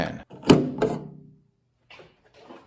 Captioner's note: clunk